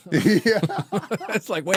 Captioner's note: laughing